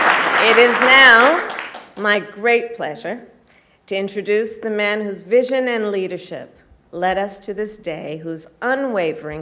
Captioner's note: applause